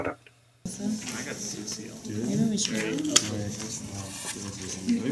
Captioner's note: classroom noise